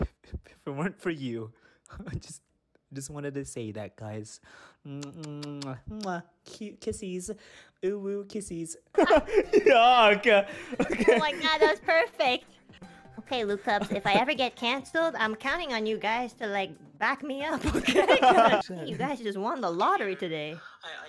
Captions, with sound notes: if it weren't for you I just- I just wanted to say that, guys *mwah* *mwah* *mwah* cute kissies uwu kissies yuck! oh my god that was perfect! okay Lucubs if I ever get cancelled I'm counting on you guys to like back me up, okay? I think you guys just won the lottery today